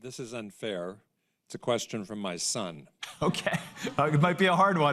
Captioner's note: laughter